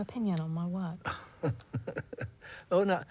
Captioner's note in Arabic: ضحكة مكتومة أوسكار